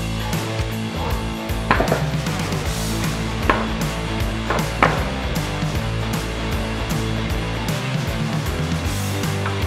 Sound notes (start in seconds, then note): 0.9 clunking wood; 6.1 fast-paced rock music